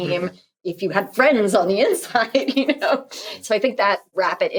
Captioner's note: laughing